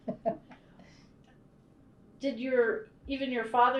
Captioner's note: laughs